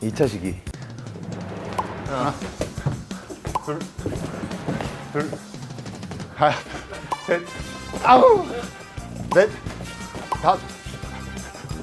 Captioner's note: tennis balls caught